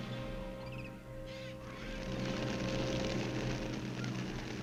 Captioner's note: wings flapping